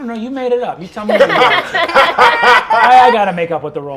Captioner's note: laughter